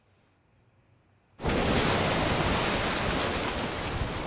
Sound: waves crashing

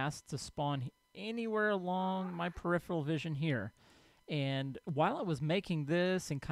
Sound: ghast squalls

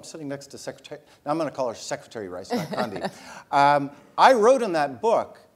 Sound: laugh

